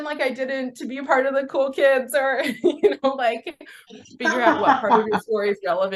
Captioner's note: both laugh